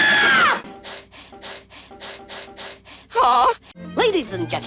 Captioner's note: rhythmic panting